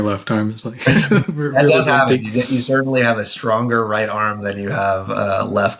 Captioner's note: laughs